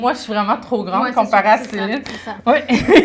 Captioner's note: laughter